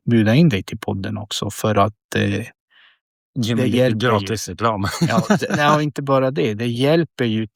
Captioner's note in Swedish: skratt